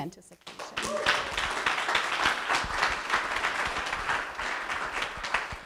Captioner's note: audience applauding